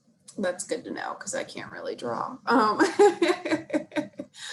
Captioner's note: laughs